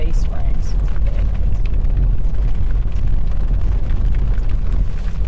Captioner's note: rain splattering